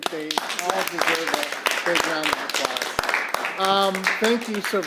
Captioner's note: applause